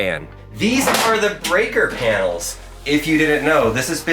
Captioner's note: door clanking